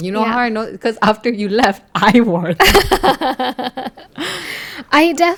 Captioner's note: laugh